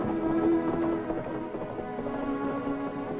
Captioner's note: horse galloping into distance